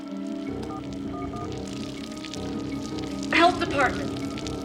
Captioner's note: phone dialing